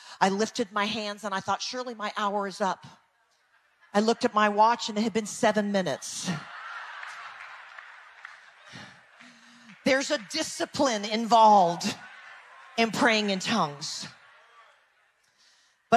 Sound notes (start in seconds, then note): 3.4 people laugh distantly; 5.6 people laugh